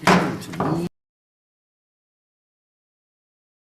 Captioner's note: gavel bangs